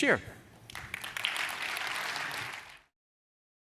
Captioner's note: applause